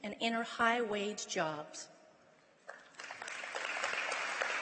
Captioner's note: applause